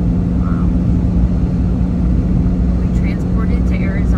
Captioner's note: engine revving